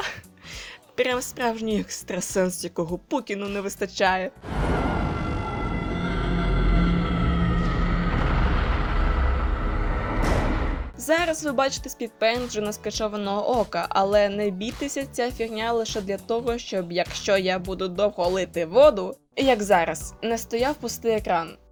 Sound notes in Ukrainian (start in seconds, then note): 4.4 Крик 11